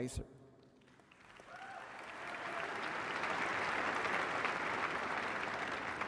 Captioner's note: applause